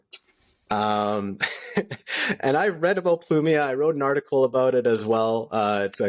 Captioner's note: laughter